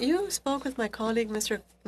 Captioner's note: speaking French